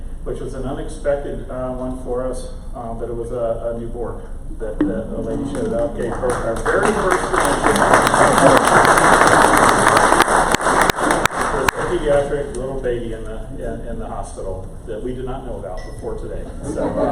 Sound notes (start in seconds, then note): 5.4 crowd applause